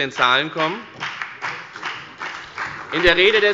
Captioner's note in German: Beifall bei der FDP und bei Abgeordneten der CDU